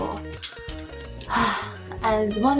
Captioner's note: sigh